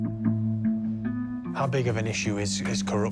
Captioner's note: none